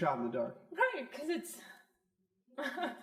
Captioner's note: laughs